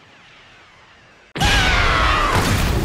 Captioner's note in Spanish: Grita